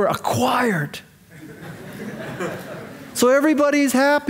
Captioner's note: audience laughing